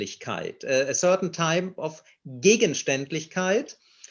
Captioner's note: speaks in foreign language